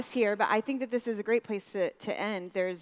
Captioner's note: none